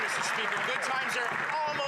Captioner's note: some Applause